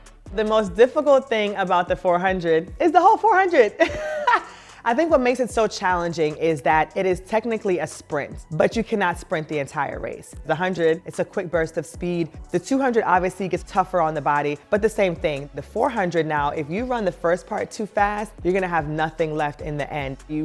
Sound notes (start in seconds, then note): 3.7 Sanya chuckles